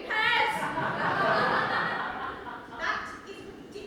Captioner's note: audience laughs